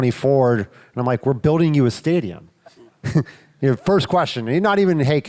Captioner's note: chuckles